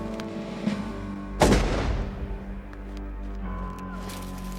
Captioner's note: gunshots firing; dramatic music